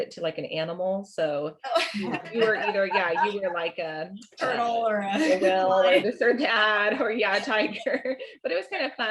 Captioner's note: laughter